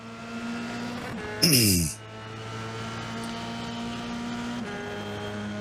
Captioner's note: engine revving